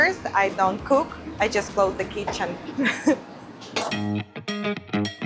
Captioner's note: chuckles; upbeat music